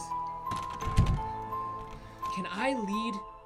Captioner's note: door rattles